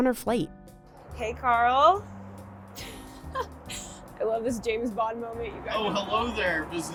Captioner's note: laughs